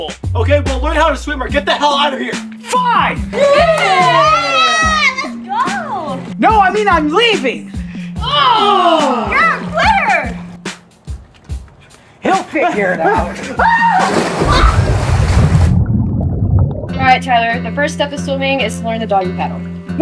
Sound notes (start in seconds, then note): 3.4 cheering; 13.6 screaming